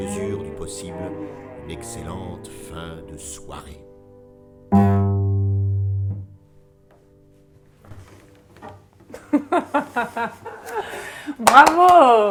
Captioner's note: applause, music